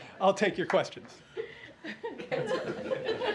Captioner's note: laughter